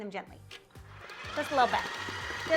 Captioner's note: mixer whirring